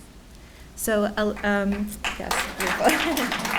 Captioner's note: laughs